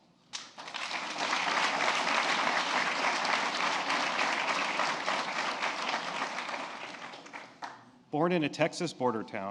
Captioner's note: applause